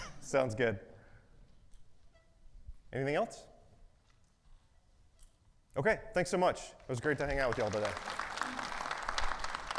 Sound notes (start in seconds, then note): 0.0 audience chuckles; 7.3 audience applauding